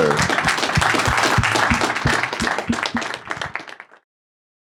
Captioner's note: audience applauding